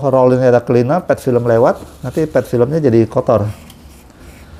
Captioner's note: tissue noise